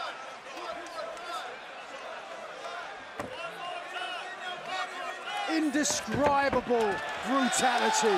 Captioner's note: crowd cheering